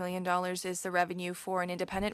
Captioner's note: speaking french